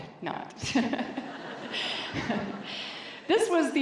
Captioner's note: laughter